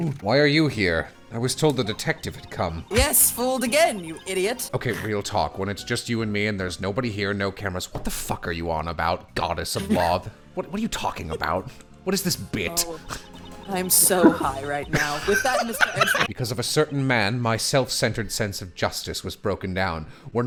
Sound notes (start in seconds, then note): 9.8 talking; 14.8 laughter